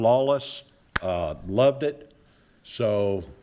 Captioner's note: claps hands